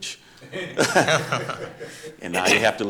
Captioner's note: audience chuckling